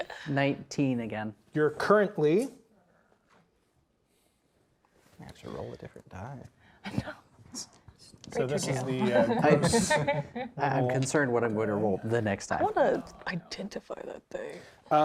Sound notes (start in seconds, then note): 8.6 players laughing and chatting